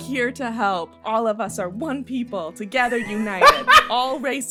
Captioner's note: laughter